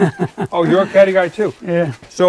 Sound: laughing

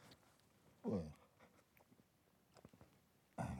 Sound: grunts

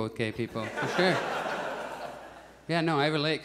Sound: audience chuckles

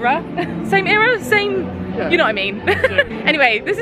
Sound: giggling

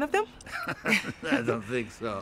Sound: both chuckle

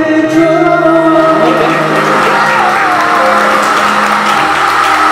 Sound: applause; A passionate round of applause

